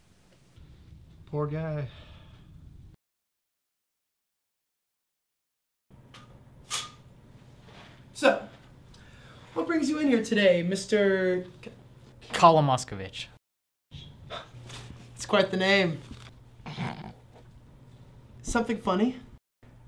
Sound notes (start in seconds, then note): 16.6 suppressed chuckle